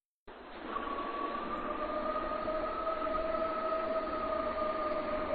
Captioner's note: creature howling